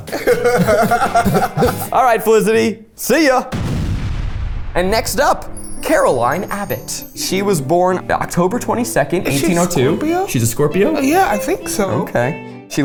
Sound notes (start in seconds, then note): 0.0 both laugh; 3.5 explosion sound effect plays